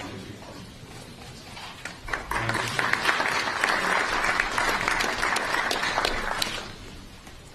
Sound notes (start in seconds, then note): 1.8 applause